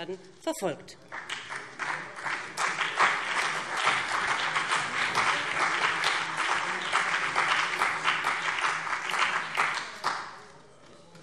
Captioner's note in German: Beifall BÜNDNIS 90/DIE GRÜNEN und vereinzelt CDU